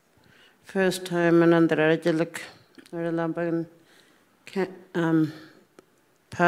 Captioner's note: speaking Anmatyerr; speaking Anmatyerr